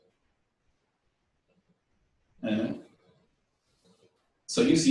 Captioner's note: pause